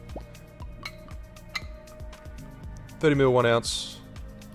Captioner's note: clinks